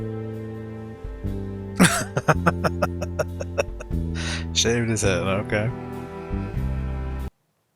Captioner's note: laughing